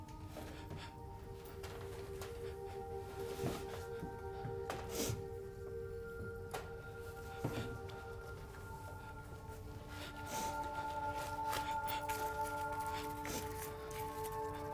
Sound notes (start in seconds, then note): 7.9 gentle music continues; 8.9 Brandy whimpering